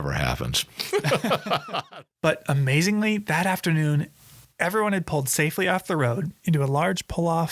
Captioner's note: laughs